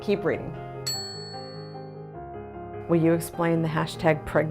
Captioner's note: bell dings